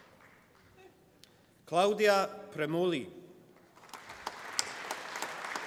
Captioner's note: applause